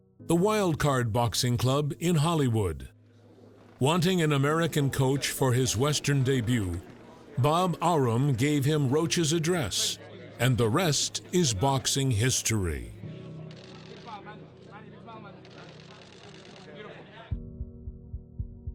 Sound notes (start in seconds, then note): 14.1 journalists chattering